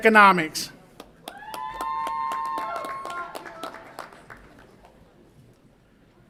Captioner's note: audience applauds and cheers